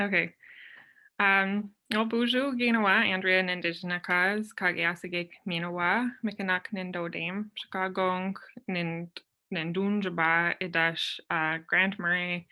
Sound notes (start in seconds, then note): 1.3 speaks in foreign language